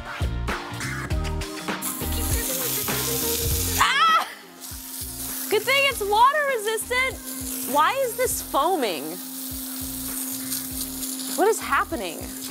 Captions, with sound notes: (cries out in surprise) Good thing it's water resistant. Why is this foaming? What is happening?